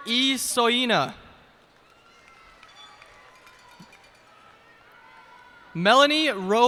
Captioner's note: cheers and applause